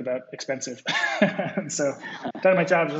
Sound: laughs

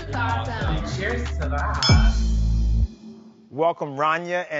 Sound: clinking

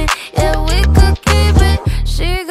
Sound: woo, woo, woo, woo, woo, woo

